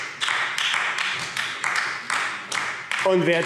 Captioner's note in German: Beifall AfD